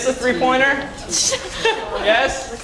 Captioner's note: laugh